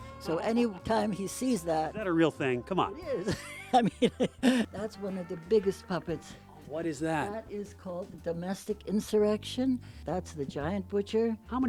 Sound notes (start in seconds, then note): 3.1 laughing